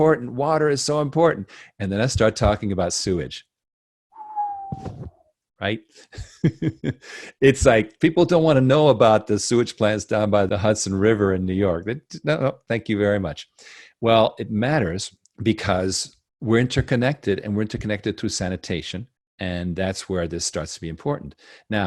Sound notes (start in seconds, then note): 4.1 whistles; 6.0 laughs